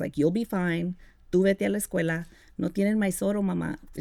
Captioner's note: speaking Spanish